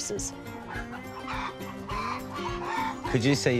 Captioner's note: chickens cluck